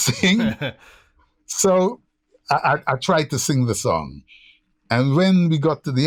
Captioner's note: laughter